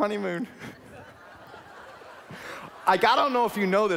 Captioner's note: laughing